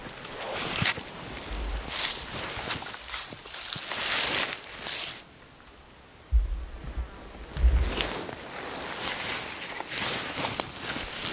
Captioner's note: moving through grass/leaves